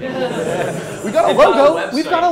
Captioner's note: crowd laugh